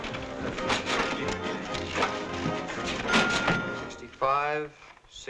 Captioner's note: register dinging